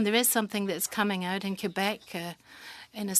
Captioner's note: speaking French